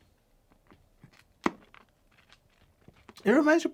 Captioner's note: candy crunching